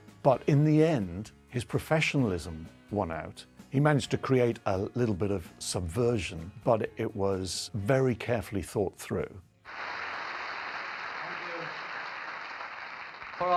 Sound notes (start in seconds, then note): 9.6 audience applauding